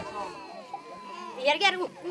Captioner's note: playground voices